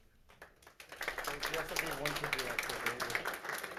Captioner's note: clapping